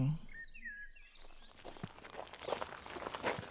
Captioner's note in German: Vögel zwitschern